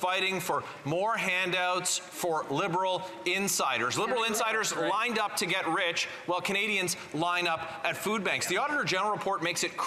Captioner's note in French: voix de l'interprète